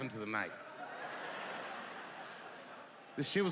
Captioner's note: audience laughing